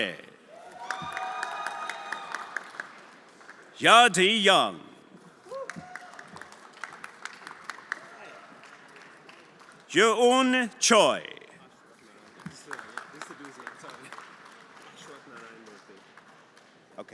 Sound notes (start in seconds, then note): 0.5 everyone applauding and cheering; 5.5 everyone applauding